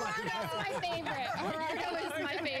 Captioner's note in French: laughter